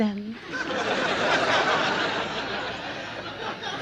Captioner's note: audience laughs